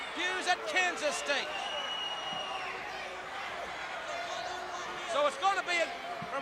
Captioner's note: crowd chatter